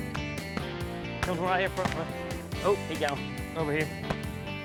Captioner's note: multiple gunshots